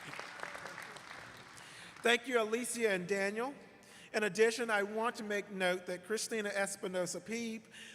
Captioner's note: applause